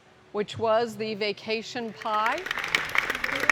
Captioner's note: applause